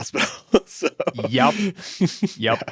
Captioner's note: laughs